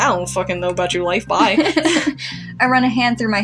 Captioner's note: chuckle; laugh